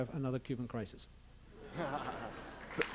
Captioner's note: laughter